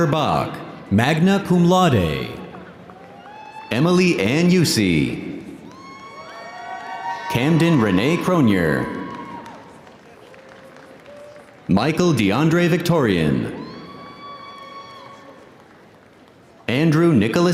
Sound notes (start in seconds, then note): 5.8 audience cheering